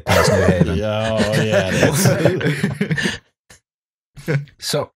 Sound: laughter

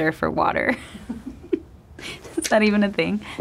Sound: person laughing

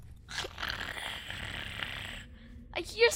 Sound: growling

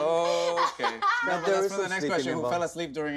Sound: laughs

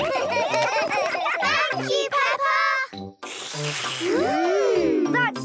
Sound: all slurping

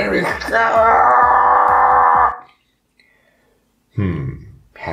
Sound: straining and yelling

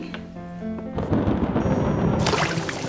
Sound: thunder rumbling

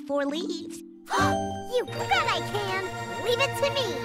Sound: gasps

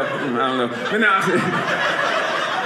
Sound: audience laughing

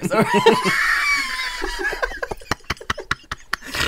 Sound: pissing Themselves Laughing

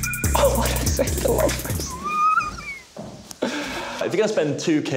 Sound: squealing

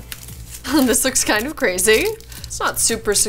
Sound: chuckles

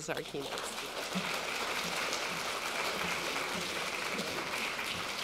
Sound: audience applauding

